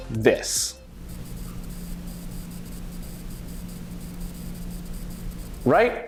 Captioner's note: annoying static